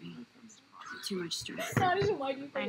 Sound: laughter

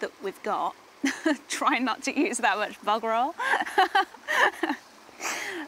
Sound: laughs

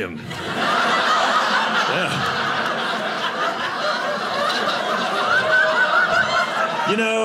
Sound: audience laughing

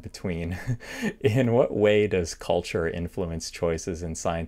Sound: laughter

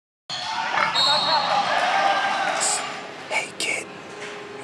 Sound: people cheering; whistle blowing

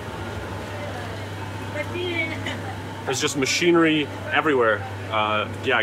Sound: speaking in foreign language

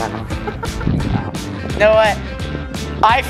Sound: laughs

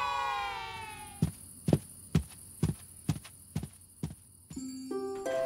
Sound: feet clunking; gentle music

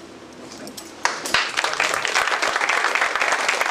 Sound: applause

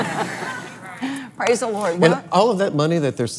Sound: laughs

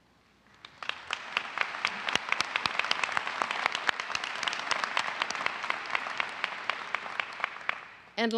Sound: applause

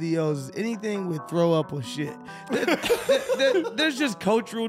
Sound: laughing

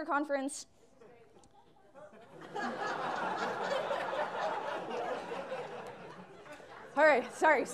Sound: laughter

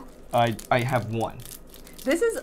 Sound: wrapper rustling

